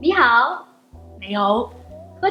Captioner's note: speaking foreign language